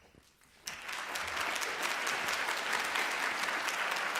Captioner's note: applause